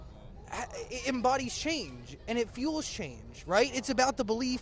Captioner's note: stutters